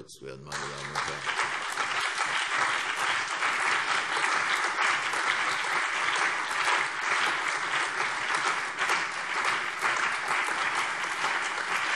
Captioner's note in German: Allgemeiner Beifall